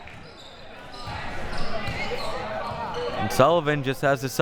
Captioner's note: audience chattering